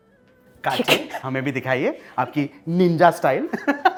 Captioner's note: chuckles; laughter